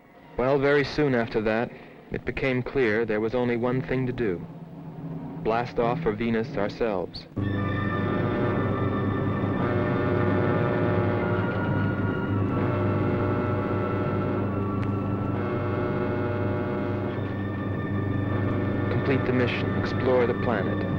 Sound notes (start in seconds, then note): 8.5 alarm blaring